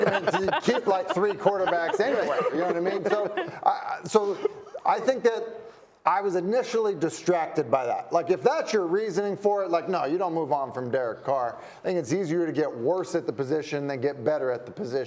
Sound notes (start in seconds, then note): 4.4 laughter